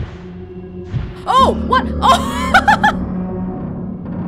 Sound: laughs

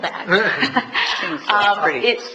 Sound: laughs

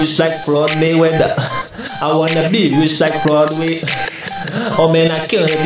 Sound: gasp

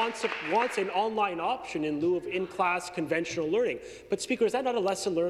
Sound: applause

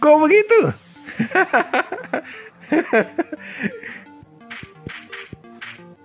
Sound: laughs

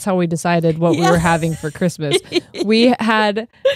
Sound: laughs

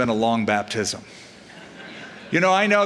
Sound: laughter

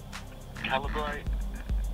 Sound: on phone

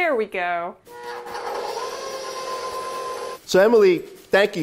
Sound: mixer whirring

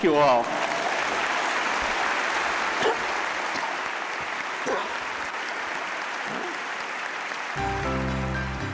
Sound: applause

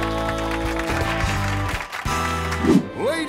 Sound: clapping

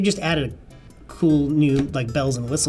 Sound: none

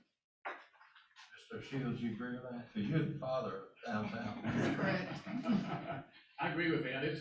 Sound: laughter

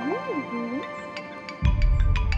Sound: phone ringing

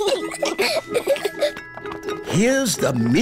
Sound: both giggling

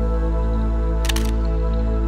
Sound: shutter sound

